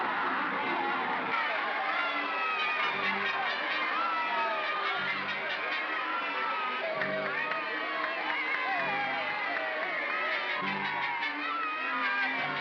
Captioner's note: growling; suspenseful music; mob cheering; ominous music